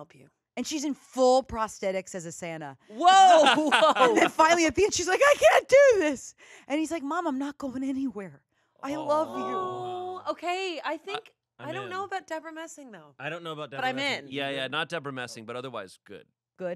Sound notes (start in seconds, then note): 9.0 everyone coos